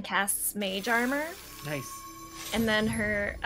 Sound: whimsical noises

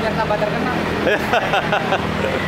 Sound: laugh

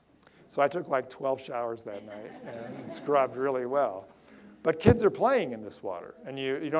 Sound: audience laughter

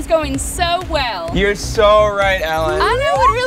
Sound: cartoon swooping sound

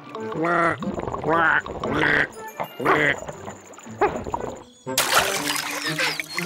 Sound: distorted quacking / barks

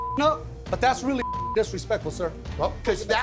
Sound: beep

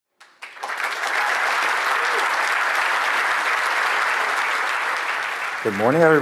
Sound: applause

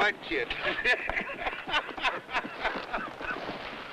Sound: laughing

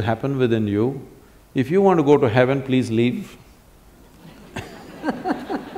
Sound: laughter

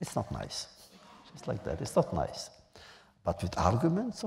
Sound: laughter

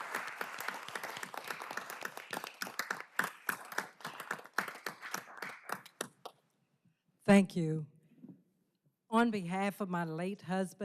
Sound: applause

